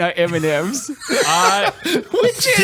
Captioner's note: laughs